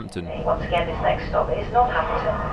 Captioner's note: train announcement